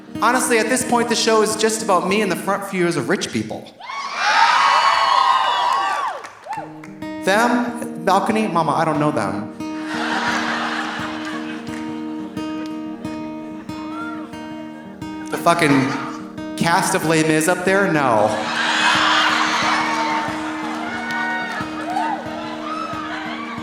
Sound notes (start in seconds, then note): 3.8 audience cheering; 4.2 audience applauding; 9.7 audience laughing; 18.3 audience laughing; 18.4 audience applauding